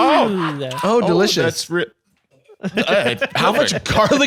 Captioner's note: gags